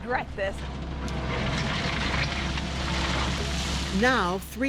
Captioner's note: heavy machinery